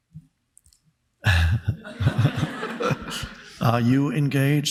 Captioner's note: speaker chuckles; audience chuckling